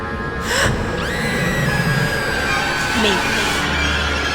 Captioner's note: Amy screaming; Keyleigh gasps